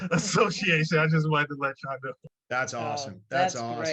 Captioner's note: laughs